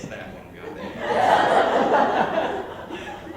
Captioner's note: laughter in the area surrounding the girl